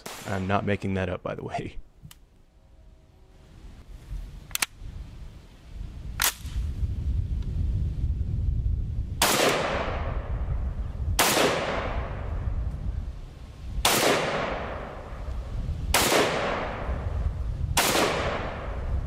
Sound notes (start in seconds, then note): 4.5 gun cocks; 9.2 gun firing